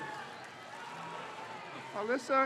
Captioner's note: crowd cheers